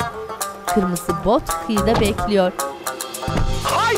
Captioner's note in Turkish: Kapı kapanma sesi